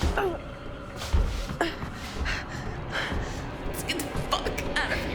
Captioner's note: Claire grunts